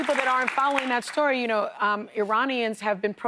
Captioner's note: applause